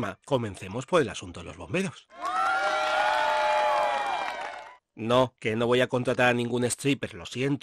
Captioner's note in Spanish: sonido de gritos de alegría